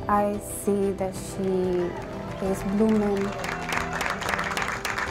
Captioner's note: everyone clapping